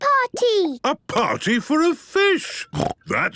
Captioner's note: snorting